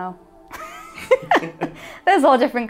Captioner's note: laughing